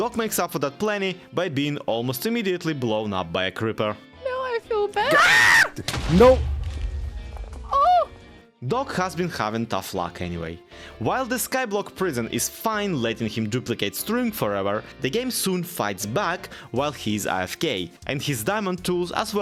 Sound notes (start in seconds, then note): 5.0 screams; 5.8 creeper explodes